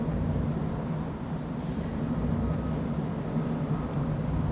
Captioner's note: background traffic